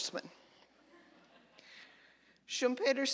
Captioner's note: audience laughter